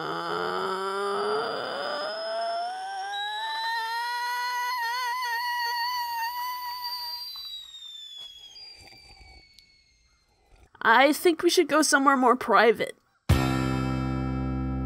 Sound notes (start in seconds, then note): 0.0 groaning continues, growing more high pitched; 5.9 groaning fades out